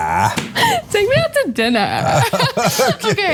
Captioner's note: laugh